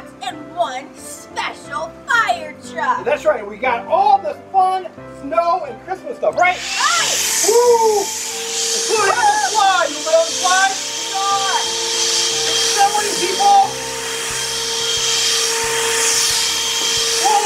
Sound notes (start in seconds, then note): 6.5 machine whirring; 15.2 christmas music playing